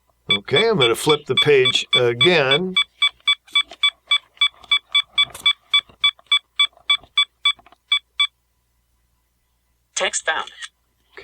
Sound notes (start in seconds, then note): 2.7 beeping